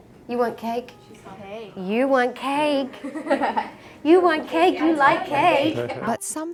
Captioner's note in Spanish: riendo